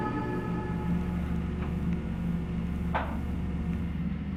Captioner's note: machine creaking